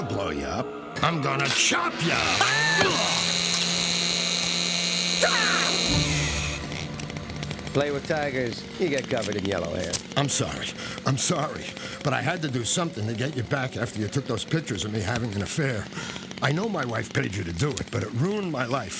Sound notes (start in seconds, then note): 1.9 screaming; 3.0 chain saw buzzing; 4.9 yelling